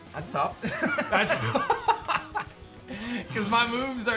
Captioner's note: laughs